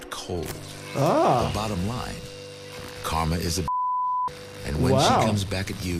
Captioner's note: beep